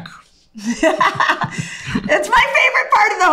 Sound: laughs

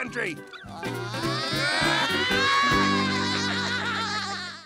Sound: laughing

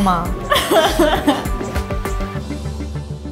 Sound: laughing

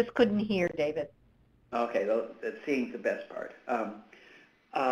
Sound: voiceover

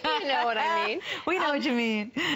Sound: laughter

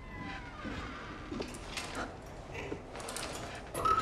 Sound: door Creaking; growling

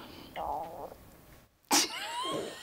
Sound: stomach growling; laughter

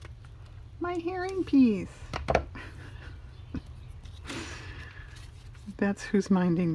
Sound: laughs

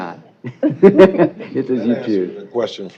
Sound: laughing

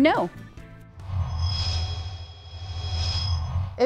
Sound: sound Effects

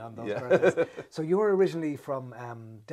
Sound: laughs

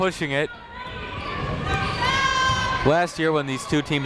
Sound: people shouting in the crowd

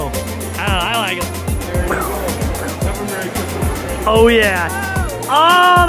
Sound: kids laugh; makes fist bump sound effects

